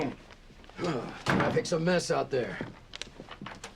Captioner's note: sighs